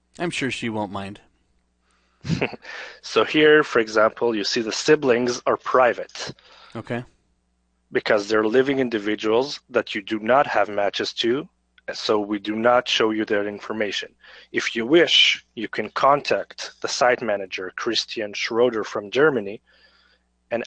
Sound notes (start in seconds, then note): 2.2 chuckles